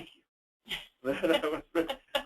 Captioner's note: laughs